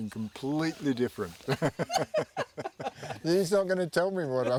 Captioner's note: laugh